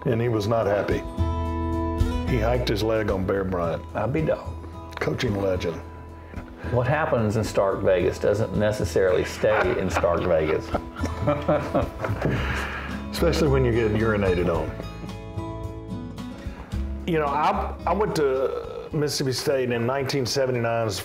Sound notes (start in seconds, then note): 11.4 laughing